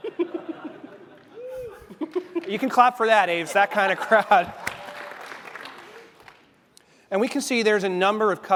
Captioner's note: applause